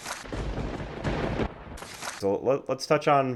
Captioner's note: thunder crackles